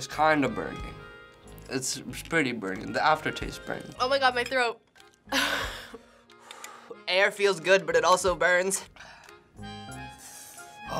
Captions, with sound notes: it's kinda burning. It's pretty burning. The aftertaste burns. - Oh my God, my throat! (laughs) - (exhales) Air feels good, but it also burns.